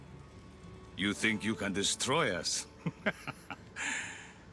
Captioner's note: laughs